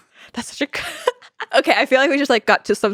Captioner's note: laughs